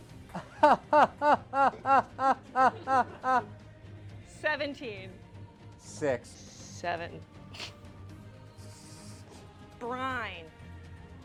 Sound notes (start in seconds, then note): 7.5 soft Fart